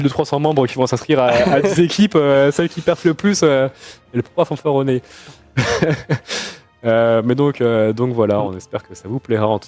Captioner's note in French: rires